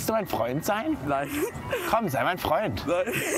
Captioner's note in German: lacht